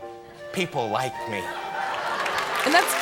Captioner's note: audience laughing